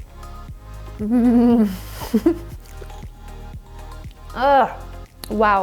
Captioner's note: laughs